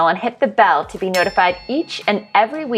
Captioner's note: bell dinging